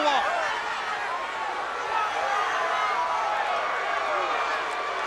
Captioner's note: crowd cheering